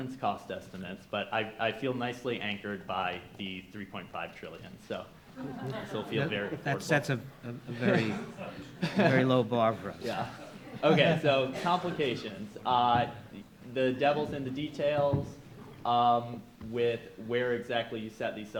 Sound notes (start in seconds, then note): 6.0 audience chuckling